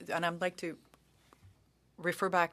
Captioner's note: speaking French